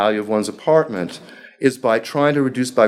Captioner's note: speaking foreign language